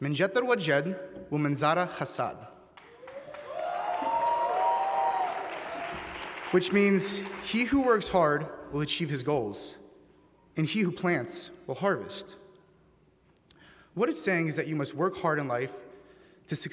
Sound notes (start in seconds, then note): 0.1 speaking Arabic; 2.7 applause